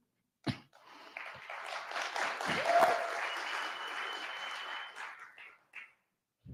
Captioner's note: applause